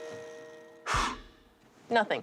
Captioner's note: exhales